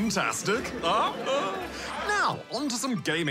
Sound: laughter

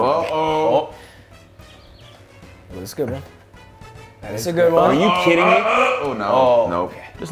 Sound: laugh

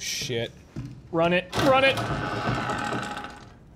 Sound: door creaking

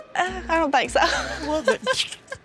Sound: laughs

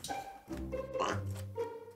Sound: dog burp

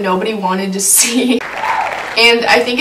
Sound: applause

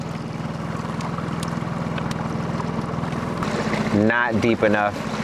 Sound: boat engine revving; water splashing

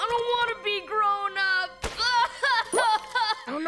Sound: crying

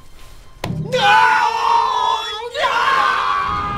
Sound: both scream

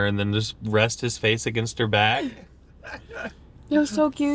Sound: laughs

